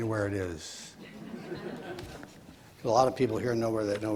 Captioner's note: audience laughs